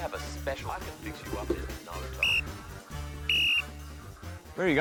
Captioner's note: blows whistle